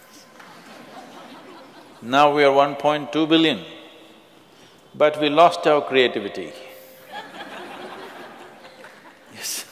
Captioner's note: laughter; 笑聲; laughter; 笑聲